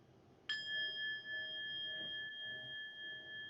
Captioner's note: bell chiming